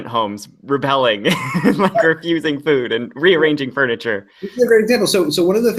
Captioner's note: laughs